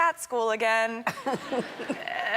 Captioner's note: Ellen and crowd members laugh